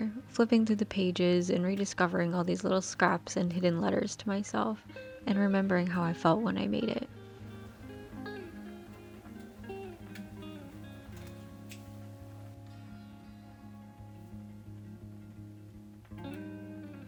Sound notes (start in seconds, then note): 7.4 paper cutting